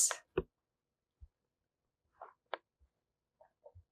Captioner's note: pauses 6 seconds